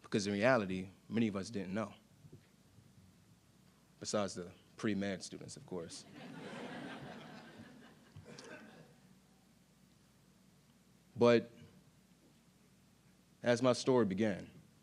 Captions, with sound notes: because in reality, many of us didn't know, besides the pre-med students, of course. (audience laughing) But, as my story began,